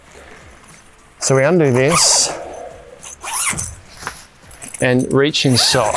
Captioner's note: zipper hissing